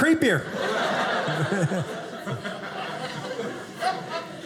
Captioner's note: audience laughing